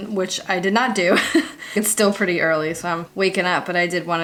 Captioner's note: laughs